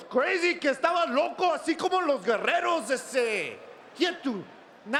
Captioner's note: Eddie speaking in Spanish